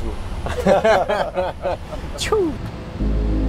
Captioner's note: laughs